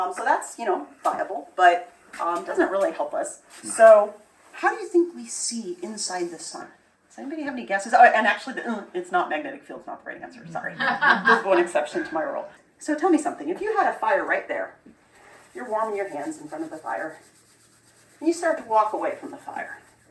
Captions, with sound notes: Um, so that's, you know, viable...but does not really help us So, how do you think we see inside the sun? Does anybody have any guesses? Alright, and, actually the, ugh, It's not magnetic field it's not the right answer, sorry...it's the one exception to my rule. [laughter] So tell me something. If you had a fire right there, you're warming your hands in front of the fire and you start to walk away from the fire...